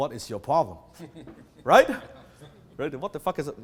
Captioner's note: laughs